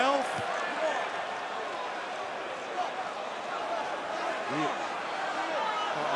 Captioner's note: crowd cheering